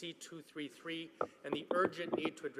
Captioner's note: some applause